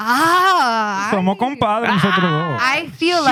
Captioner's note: speaking Spanish